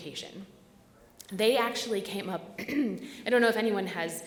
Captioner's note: clears throat